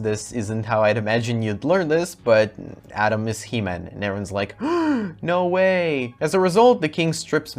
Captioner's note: gasp